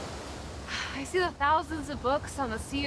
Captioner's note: Fern sighs